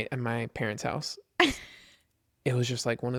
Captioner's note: laughs